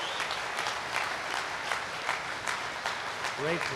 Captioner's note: applause